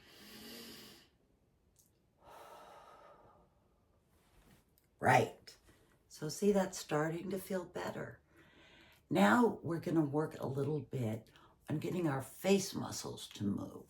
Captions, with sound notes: (audibly inhales through nose) (audibly exhales through mouth) Right! So see that's starting to feel better. Now we're gonna work a little bit on getting our face muscles to move.